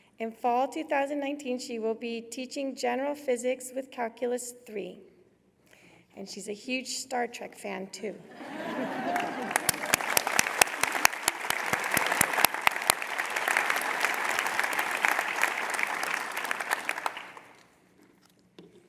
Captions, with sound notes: In fall 2019, she will be teaching general physics with calculus III, and she's a huge Star Trek fan, too [laughter]. [ Applause ]